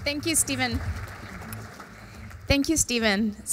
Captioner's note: applause